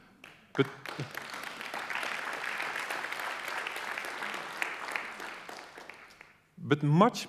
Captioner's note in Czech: Potlesk